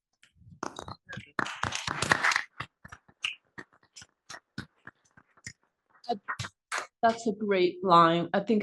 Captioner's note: applause